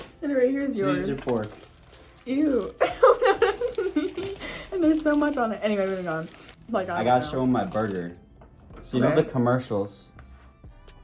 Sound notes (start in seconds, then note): 2.8 laughs